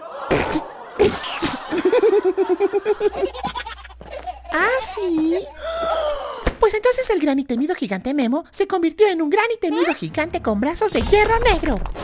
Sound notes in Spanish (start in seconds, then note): 0.0 risas; 3.0 risa de bebé acelerado; 5.5 respiración profunda